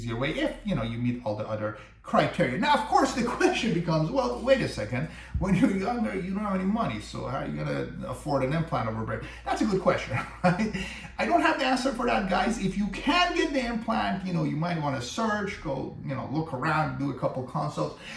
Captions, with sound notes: If you know, you meet all the other criteria Now of course the question becomes Well wait a second, when you're younger, you don't have any money So how are you going to afford an implant over bridge? That's a good question (laugh) I don't have the answer for that guys If you can get the implant you know You might want to search, go you know look around, do a couple of consults